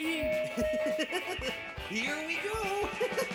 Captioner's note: Elvis Chuckles